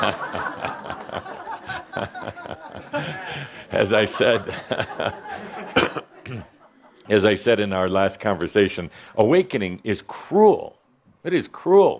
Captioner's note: laughter